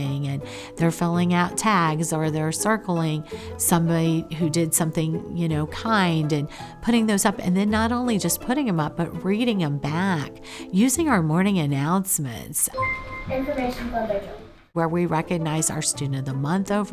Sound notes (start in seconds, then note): 12.7 bell dings